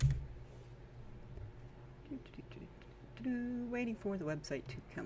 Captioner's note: sing-song; still sing-song